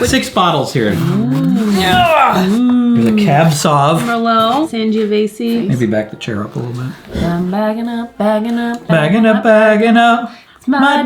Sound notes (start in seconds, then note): 1.2 both oohing